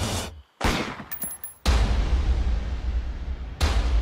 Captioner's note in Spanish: Disparo